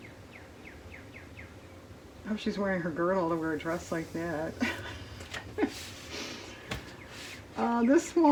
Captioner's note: laughs